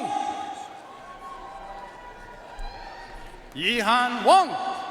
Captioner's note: audience cheering and applauding